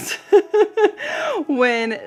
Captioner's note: laughs